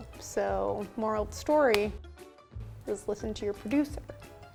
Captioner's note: none